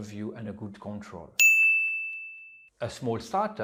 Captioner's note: pinging sound